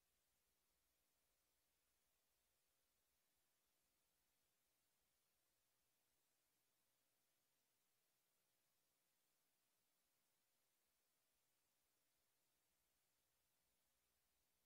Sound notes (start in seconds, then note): none